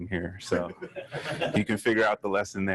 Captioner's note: audience laughing